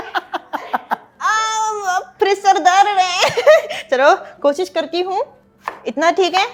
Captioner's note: laughter; squeals